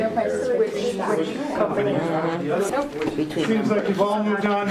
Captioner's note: classroom chattering